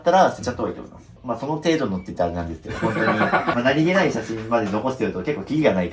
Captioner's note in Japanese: 笑い